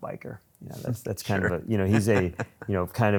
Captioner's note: laughs